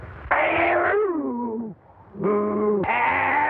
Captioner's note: growling